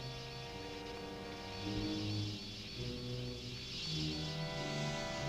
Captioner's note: muffled wasps buzzing